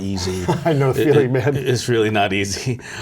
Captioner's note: laughs